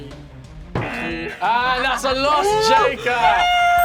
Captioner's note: buzzer